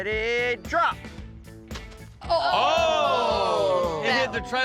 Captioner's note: thud